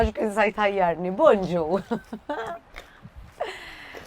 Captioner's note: chuckles